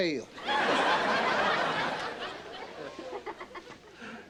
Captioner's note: audience laughing